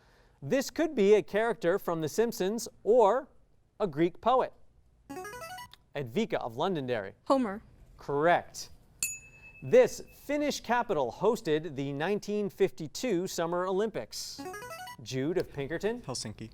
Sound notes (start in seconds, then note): 5.1 signaling device tone; 9.0 ding; 14.4 signaling device tone